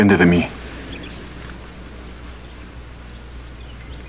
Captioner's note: groaning softly